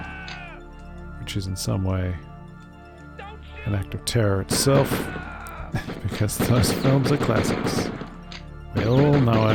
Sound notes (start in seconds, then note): 5.1 laughs